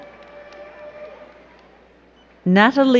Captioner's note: crowd cheering